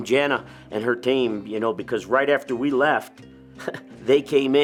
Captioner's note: chuckles